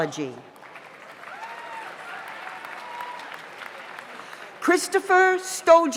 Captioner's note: audience applauds; audience cheers